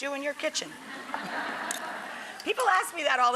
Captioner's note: audience laughs